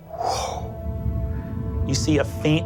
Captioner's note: imitates air whooshing